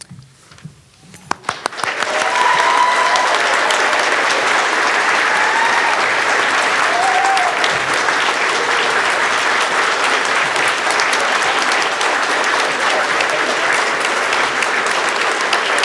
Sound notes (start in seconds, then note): 1.1 all applauding